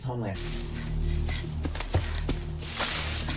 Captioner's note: panting